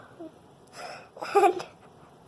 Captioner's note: giggles